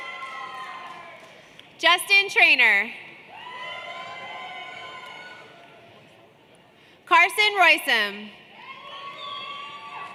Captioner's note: applause